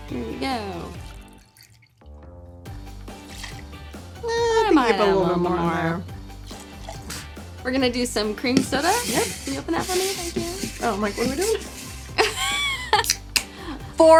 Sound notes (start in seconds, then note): 0.1 liquid pouring; 6.4 liquid pouring; 8.3 can sliding; 11.9 can opens; 12.1 laughs